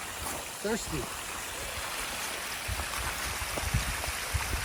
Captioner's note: water rushing